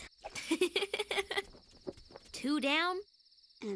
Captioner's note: giggles